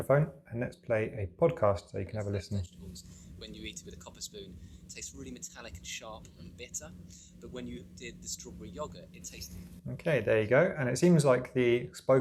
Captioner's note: podcast plays